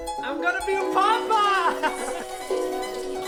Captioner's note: laughs; invigorating music